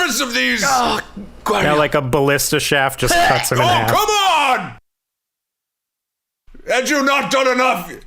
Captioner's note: shouting